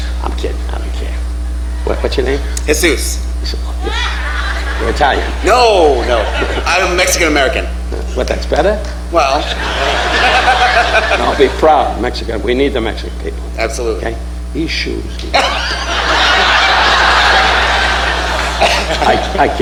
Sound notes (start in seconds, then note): 9.3 laughing; 15.3 audience laughing